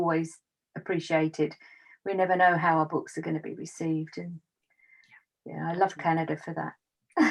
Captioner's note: laughs